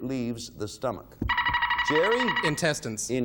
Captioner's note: buzzer beeping